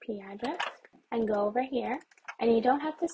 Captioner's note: mouse clicks some more